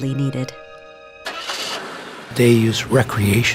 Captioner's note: car engine starting